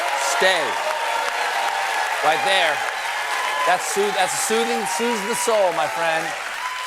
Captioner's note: applause